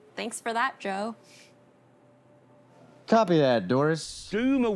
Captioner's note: none